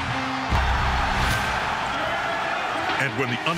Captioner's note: rock music; cheering